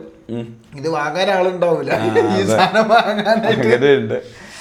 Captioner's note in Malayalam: പൊട്ടിച്ചിരി